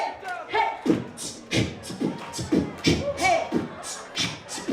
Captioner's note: beatboxing